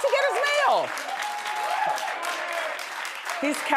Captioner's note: audience applauds